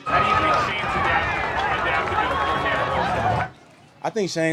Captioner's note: crowd cheering